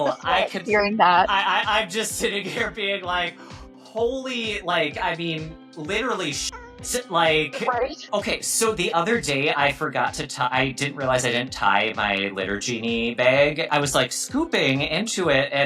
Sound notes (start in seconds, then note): 6.1 cat meowing